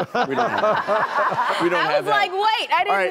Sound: laughter

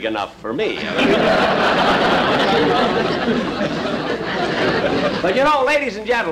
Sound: audience Laughing

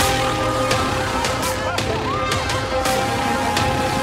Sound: cheering

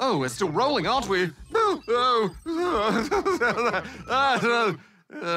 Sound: blathers nervously

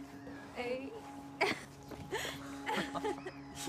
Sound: laughter

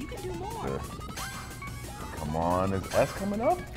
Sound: laugh

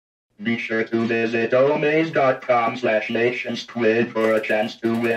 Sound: computer Voice

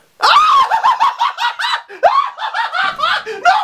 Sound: hysterical laughing

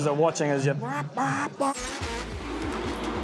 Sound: imitates engine revs

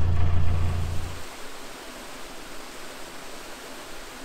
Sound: sound of water flowing

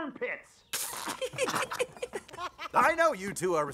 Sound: George and Harold snicker and laugh

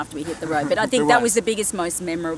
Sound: laughs

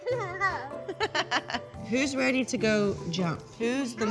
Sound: laughs

